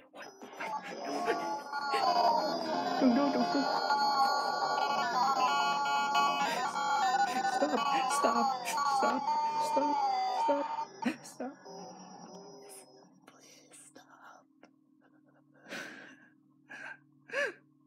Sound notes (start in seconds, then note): 13.2 whispering; 15.6 sobbing